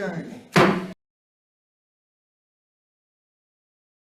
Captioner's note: gavel bangs